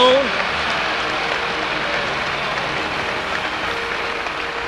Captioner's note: audience applauds